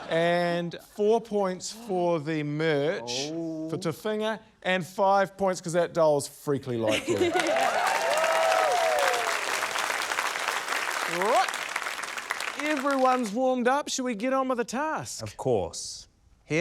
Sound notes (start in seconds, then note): 7.1 cheering, applause